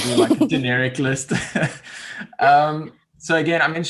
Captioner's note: laughs